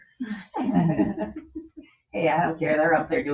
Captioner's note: people chuckle